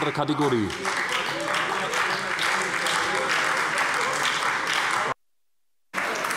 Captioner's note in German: Beifall bei der SPD - Zurufe von der Zuschauertribüne